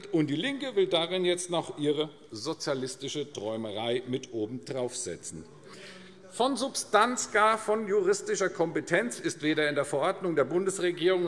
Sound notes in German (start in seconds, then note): none